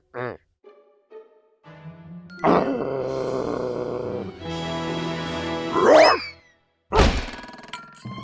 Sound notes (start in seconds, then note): 2.4 growling